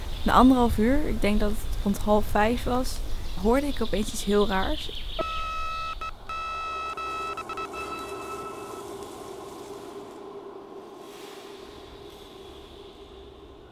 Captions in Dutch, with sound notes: Na anderhalf uur, ik denk dat het rond half vijf was, hoorde ik opeens iets heel raars... [echoënde hoge piep van ver weg]